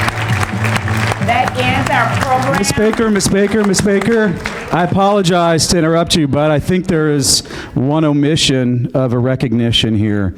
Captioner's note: applause